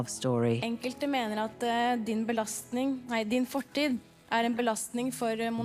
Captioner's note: speaking in foreign language